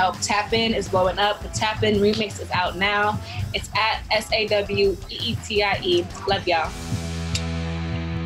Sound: smooches

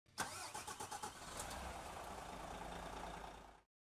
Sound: engine starting

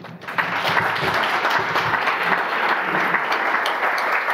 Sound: audience applause

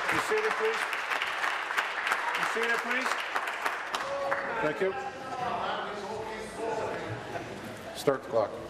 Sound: applause

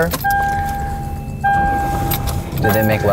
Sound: car beeping

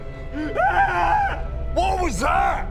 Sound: bigger_scream.wav

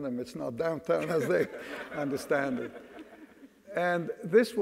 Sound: audience laughs

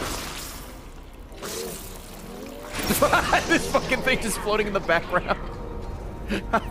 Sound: laughs

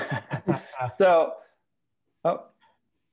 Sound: laugh

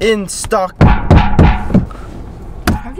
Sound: bang bang bang

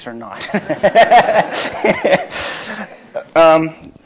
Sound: laughter

